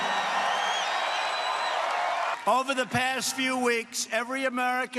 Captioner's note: cheers and applause